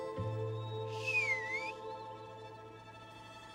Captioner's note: whistles